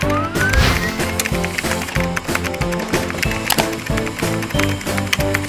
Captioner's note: camera shutter clicking; computer keys clicking